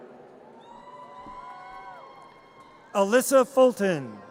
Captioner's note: audience cheers and applause